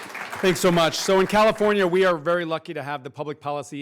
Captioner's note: applause